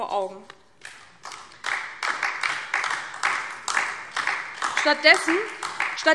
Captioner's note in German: Beifall DIE LINKE